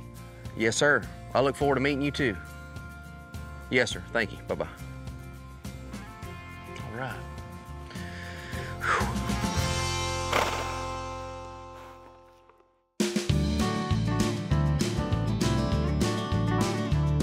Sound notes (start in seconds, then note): 7.8 exhales; 8.8 horse nickers